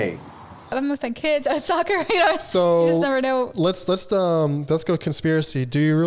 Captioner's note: chuckles